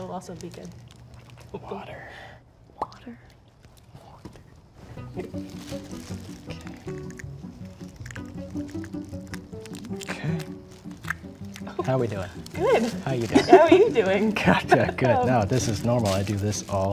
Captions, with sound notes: At this moment. - Later, I will also be good. - Water, water? (plastic crinkling) - Okay. Okay. How we doing? - Good. - How you doing? (woman laughing) - How are you doing? - Gotcha good.